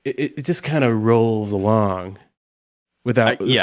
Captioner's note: none